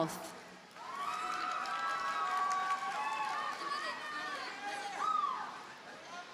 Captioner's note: audience cheers and applauds